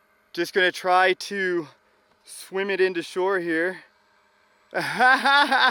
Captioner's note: laughs